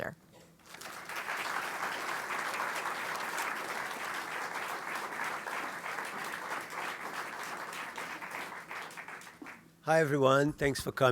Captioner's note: applause